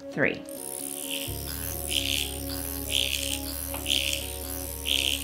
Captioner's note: machine vibrating